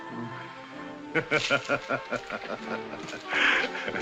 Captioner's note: gonzalez chuckles